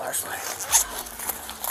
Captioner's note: bag unzips